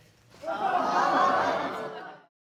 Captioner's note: audience exclaims